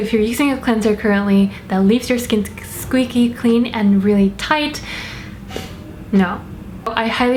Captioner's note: deep breath